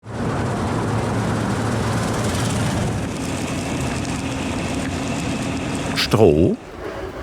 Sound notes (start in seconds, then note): 0.0 machine whirring